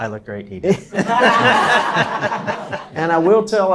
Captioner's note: laughs